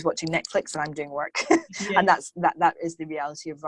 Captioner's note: laughs